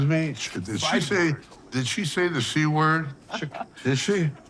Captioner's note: Margaret giggling